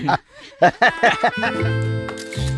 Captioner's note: continues to laugh